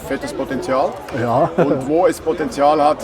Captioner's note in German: lacht